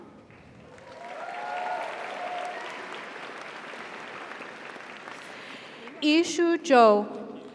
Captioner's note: audience applauds; audience cheers